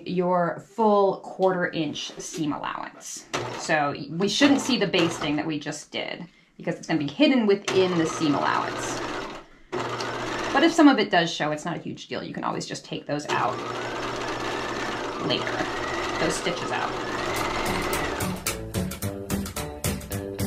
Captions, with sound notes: your full quarter inch seam allowance. So we shouldn't see the basting that we just did because it's going to be hidden within the seam allowance. (sewing machine clunking) But if some of it does show, it's not a huge deal. You can always just take those out (sewing machine clunking) later, those stitches out. (jubilant music)